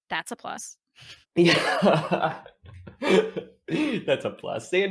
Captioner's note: laughing